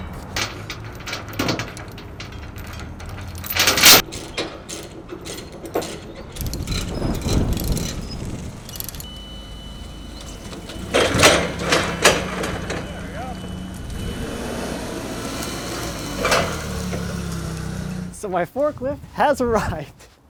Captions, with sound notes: There we go. (forklift engine revving) So my forklift has arrived.